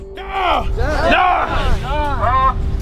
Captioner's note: men grunting